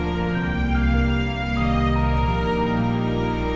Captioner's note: bzzz bzzz